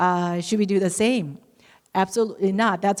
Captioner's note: none